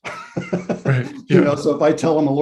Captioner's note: laughs